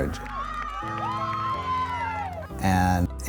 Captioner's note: crowd cheering